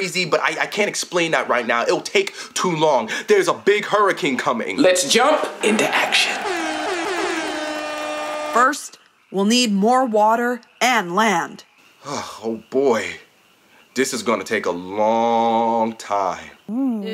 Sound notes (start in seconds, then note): 5.5 audience applauding; 6.0 air horn blowing